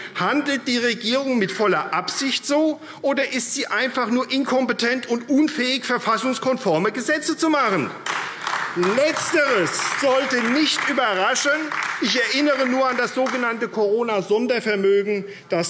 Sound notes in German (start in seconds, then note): 8.0 Beifall AfD